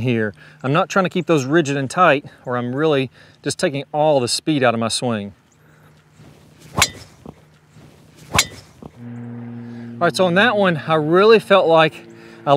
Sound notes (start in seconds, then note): 6.5 whack